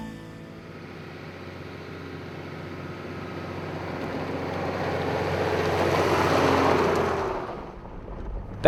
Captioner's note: vehicle sounds